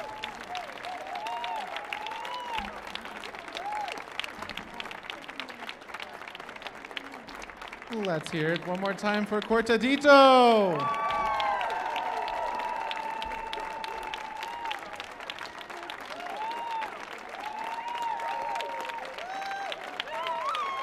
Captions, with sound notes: (audience applauding) - Let's hear it one more time for Cortadito. (audience applauding) (audience whooping)